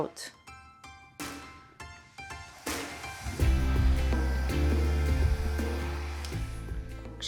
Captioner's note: bright music; dryer whirring